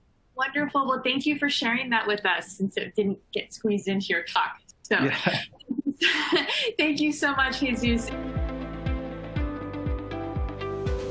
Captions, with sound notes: Wonderful, well, thank you for sharing that with us. since it didn't get squeezed into your talk. So-- Yeah. (laughs) (laughs) Thank you so much, Jesús. (bright music)